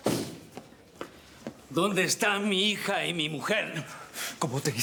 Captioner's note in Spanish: Portazo